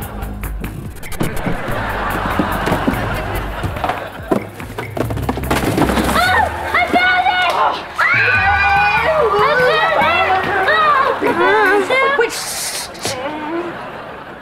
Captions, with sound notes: [laughing] Oh, I found it! [screaming] Wait, ssh, ssh, ssh!